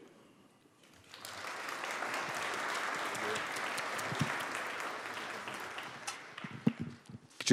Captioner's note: applause